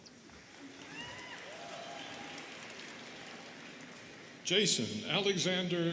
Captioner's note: students cheering and clapping